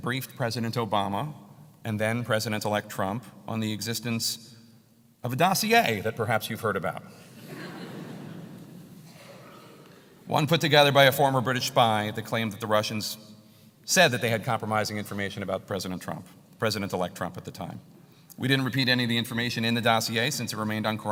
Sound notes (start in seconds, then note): 7.3 laugh